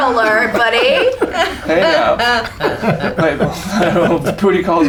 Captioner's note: laughter